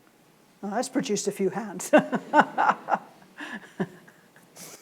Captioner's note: laughs